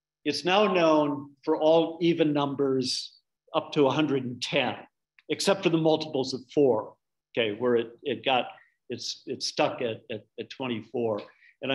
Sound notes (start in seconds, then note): none